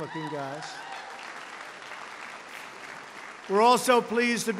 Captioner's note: applause